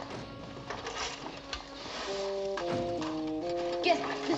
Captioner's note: all blowing